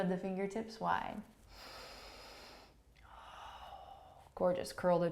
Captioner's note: inhaling and exhaling